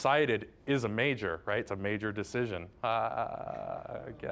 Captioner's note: laughing wryly